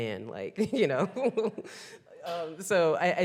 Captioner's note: chuckling